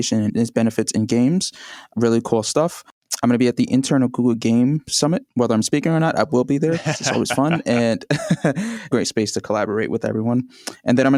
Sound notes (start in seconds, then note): 6.7 laughs; 6.7 laughter